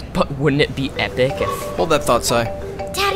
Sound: cellphone rings

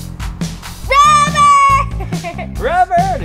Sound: laughs

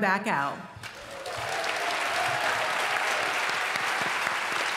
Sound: applause

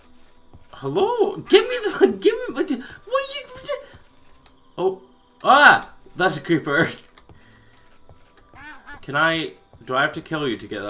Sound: confusion noises

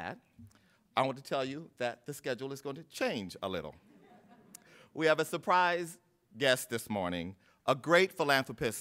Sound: laughter

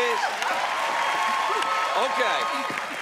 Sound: cheers and applause

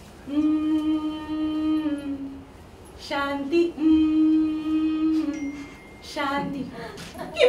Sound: Hums a song from the film "Om Shanti Om"

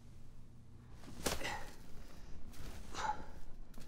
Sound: panting

